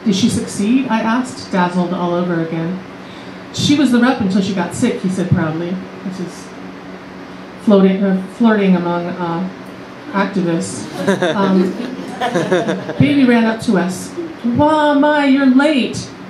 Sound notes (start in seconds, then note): 10.8 laughter